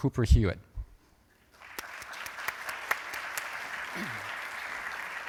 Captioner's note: applause